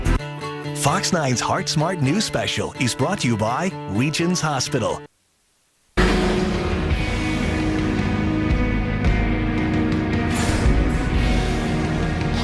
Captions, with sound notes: - [Voiceover] Fox 9's Heart Smart News Special is brought to you by Regions Hospital. (rock music)